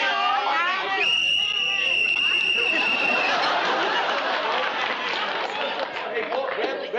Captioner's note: whistle blows